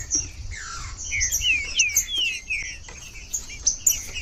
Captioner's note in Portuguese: trinca ferro cantando